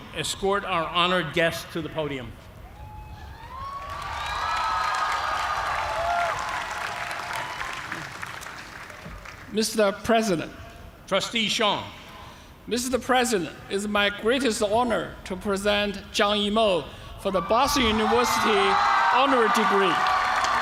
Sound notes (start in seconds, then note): 3.2 cheers and applause